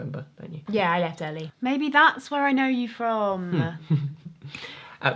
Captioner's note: Ryan giggles